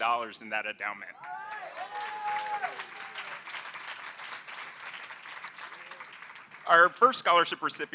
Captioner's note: applause